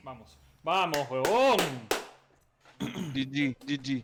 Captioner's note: claps and hoots